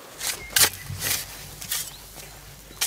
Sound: birds chirping

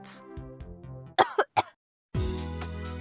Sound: coughing

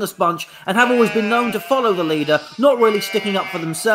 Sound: sheep baa'ing

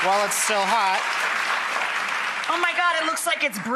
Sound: applause

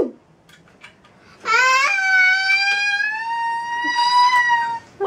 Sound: yells

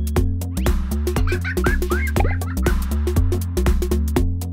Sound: laughter

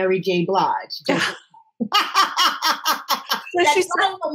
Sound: both laughing

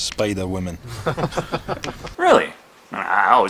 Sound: laughter

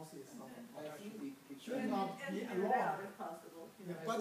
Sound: group chattering

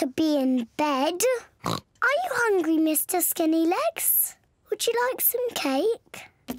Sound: oinks

